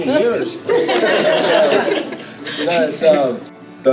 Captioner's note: laughter